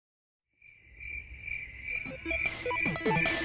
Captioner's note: crickets chirping